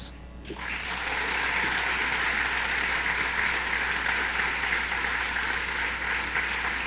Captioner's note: applause